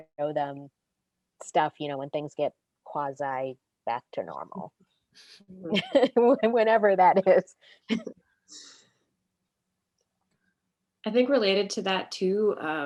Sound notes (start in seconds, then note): 5.6 laughs